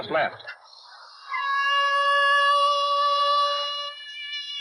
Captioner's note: siren wailing